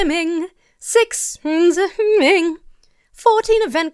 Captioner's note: mumbles